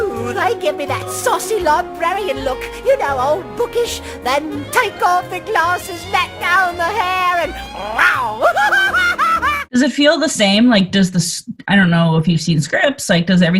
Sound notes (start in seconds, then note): 7.7 hysterical laughing; 7.8 growls